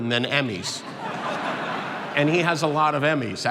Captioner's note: crowd laughing